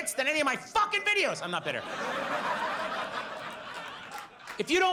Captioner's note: audience laughs